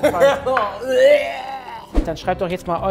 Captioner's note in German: Würgen